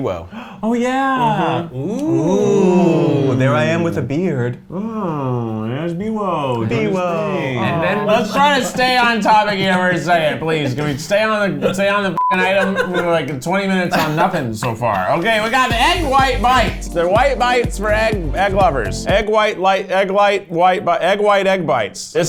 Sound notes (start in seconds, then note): 12.2 beep